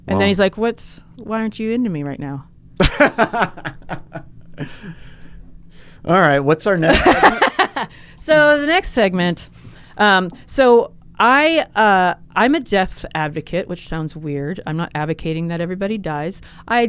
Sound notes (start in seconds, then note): 2.8 laughs; 6.9 laughs